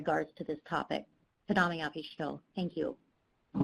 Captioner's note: speaking Native language